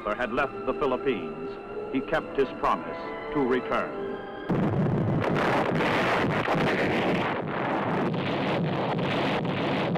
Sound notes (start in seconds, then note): 3.7 machine guns firing